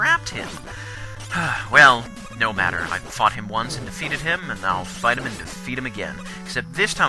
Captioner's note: sigh